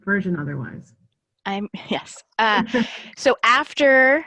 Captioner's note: laughing; snickers